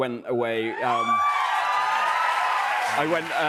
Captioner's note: cheers and applause